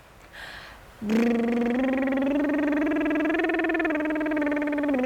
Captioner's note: lip burring sound